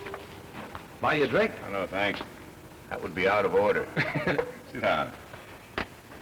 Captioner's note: laughter